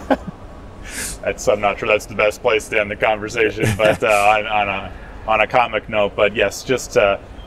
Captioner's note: laughs